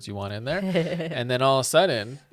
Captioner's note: chuckles